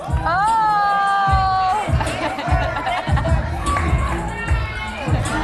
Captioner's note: audience laughs